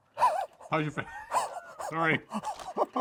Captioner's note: wheezes; gasps